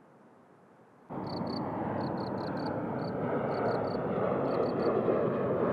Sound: roar of a passing airplane

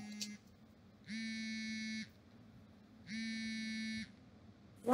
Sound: phone vibrating

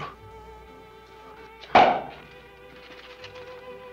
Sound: cork pops

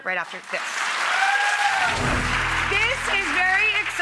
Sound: applause

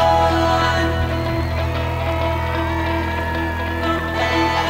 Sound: audience cheering

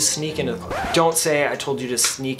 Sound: record scratch

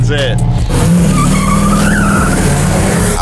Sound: engine Roaring

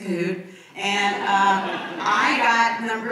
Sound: audience laughs

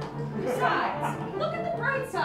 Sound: laughter

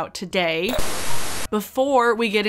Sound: static hissing

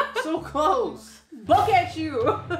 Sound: laughing

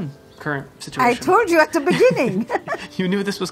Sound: laughing

